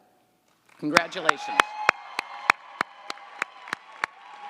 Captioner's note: audience applauds